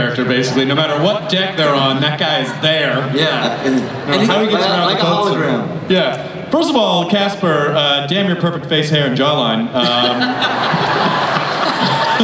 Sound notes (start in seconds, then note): 9.8 everyone laughs